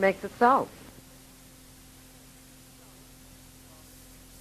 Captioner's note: sound fades